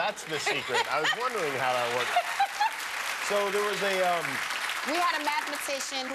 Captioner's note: applause